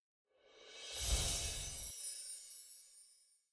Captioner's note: wind chime tinkles